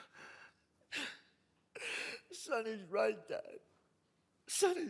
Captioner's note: sobs